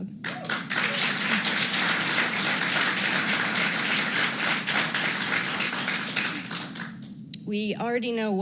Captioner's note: applause